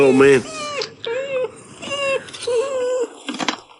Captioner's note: dog whining